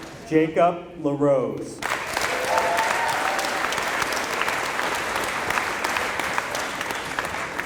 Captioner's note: applause